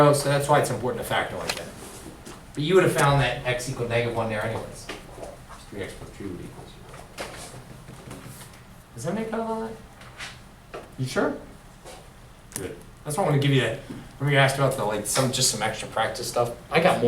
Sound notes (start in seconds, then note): 6.1 voiceover